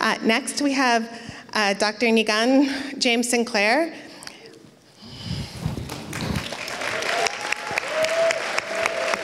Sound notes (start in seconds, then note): 3.8 applauds